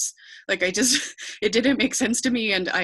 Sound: chuckles

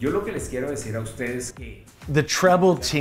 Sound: translator speaking Spanish

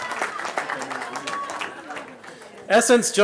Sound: cheering

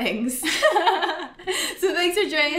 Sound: both laugh

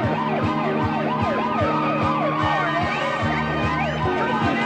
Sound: sirens sounding

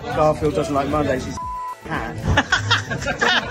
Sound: beep; everyone laughing

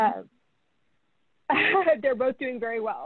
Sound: laughing

